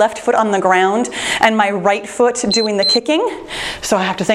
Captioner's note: timer beeps